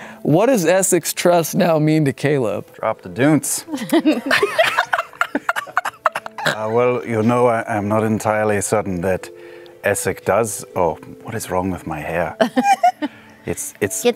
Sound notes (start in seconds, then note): 3.7 laughing; 6.5 Caleb voice